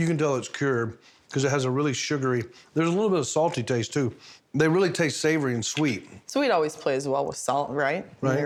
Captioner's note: none